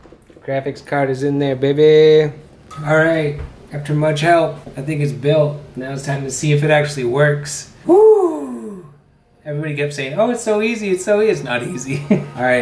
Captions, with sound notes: Graphics card is in there, baby. All right after much help. I think it's built. Now It's time to see if it actually works. [exhale]: woooo Everybody kept saying oh it's so easy, so easy. it's not easy.